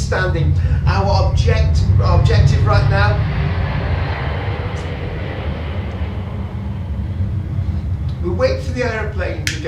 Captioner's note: jet airplane flies low over the lab